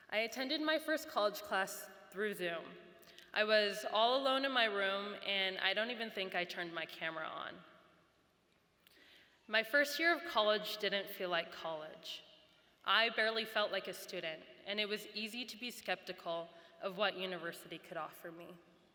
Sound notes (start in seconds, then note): none